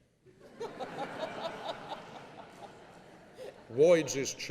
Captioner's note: laughing